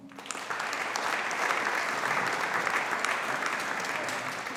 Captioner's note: audience applauding